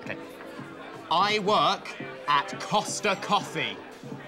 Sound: shouting

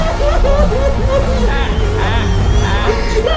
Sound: sobbing

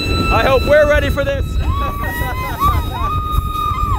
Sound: screeching; squeals

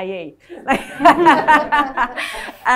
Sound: laughing

